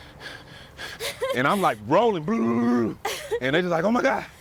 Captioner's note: imitates rolling sounds